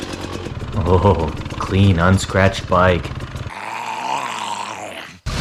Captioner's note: drools